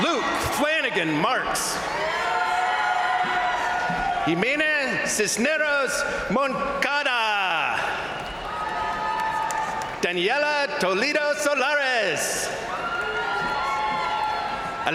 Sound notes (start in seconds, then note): 2.2 crowd cheering; 7.3 crowd cheering; 7.5 crowd applauding; 12.3 crowd cheering; 12.6 crowd applauding